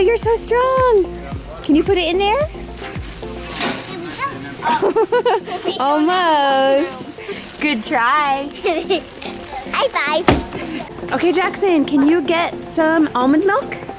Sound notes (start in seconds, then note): 4.3 laughs; 8.4 laughs